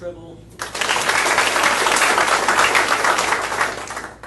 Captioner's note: audience applauding